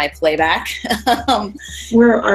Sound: laughs

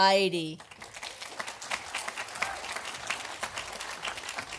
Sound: audience applauding

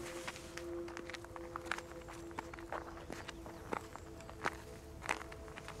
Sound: rocks crunching; wind whirring

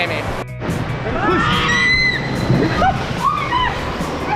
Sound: screaming

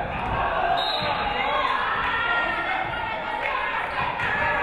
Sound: referee whistles

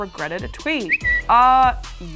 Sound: whistle

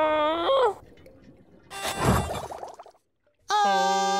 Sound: groaning; whistling

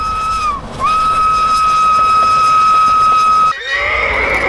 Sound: train whistle blows; horse neighing

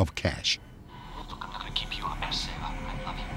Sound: on phone

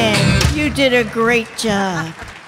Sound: audience clapping

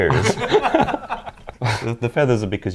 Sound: laughing

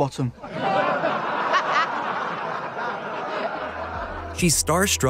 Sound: laughter

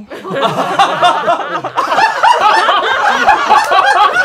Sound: laughing

